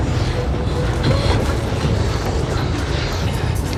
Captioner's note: gasping